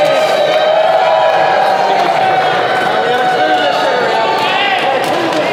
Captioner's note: Crowd conversing and cheering David Letterman